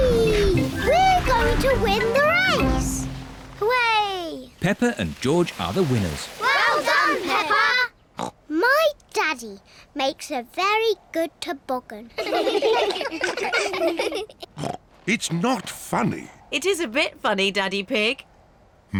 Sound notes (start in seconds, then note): 8.6 snorts; 12.2 all laugh; 14.6 snorts